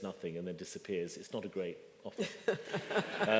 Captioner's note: laughter